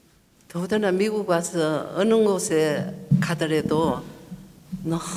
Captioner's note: speaking foreign language